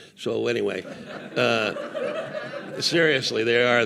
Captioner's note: audience laughing